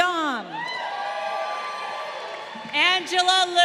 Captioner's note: crowd cheering